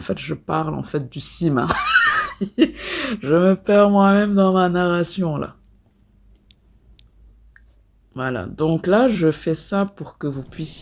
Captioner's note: laughs